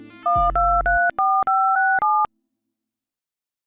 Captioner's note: phone dials